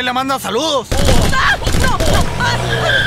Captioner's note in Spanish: gritos de niña; sonido de fusiles alv